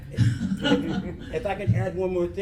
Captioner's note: laughs